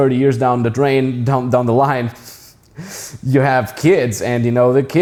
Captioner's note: chuckling